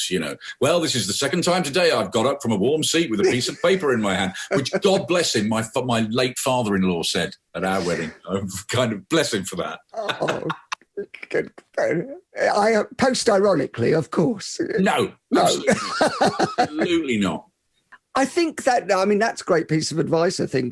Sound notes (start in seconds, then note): 10.0 both laughing; 15.5 laughing